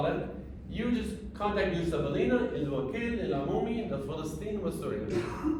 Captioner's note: speaking arabic; speaking arabic